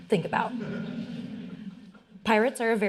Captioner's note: audience laughing